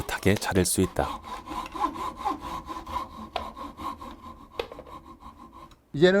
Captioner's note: sawing sound